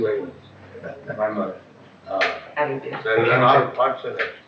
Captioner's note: chuckles